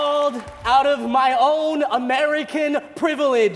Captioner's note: applause